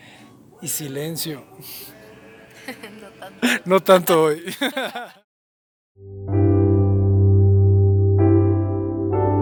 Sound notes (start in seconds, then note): 4.4 laughter